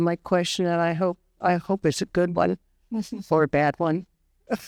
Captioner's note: laughs